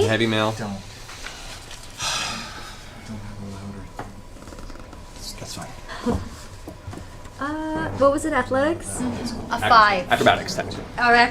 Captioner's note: nervous laugh